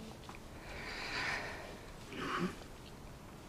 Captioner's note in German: atmet laut